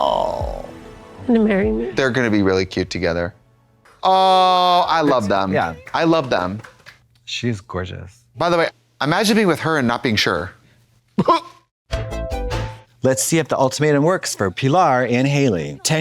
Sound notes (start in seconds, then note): 11.0 synth bop; 11.2 Trixie gags